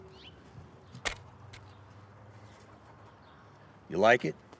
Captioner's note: shovel thuds